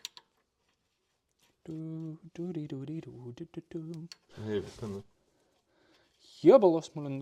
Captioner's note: hums